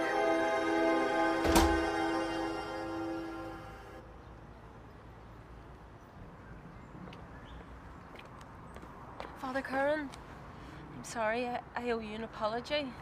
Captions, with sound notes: (door slams) Father Curran. I'm sorry I owe you an apology.